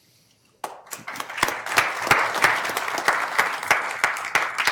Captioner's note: applause